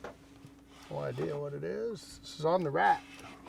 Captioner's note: reel cranking